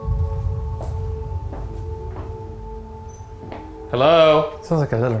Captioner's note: steps clicking